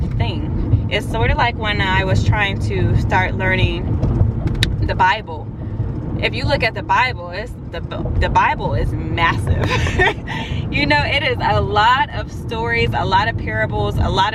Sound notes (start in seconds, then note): 9.6 laughs